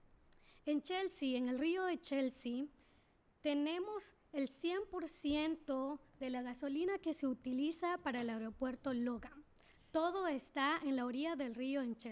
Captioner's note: speaking spanish